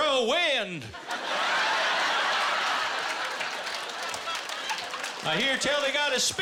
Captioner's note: laughter